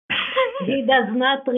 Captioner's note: laughs